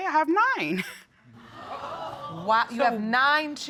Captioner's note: audience exclaiming